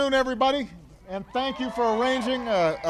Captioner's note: applause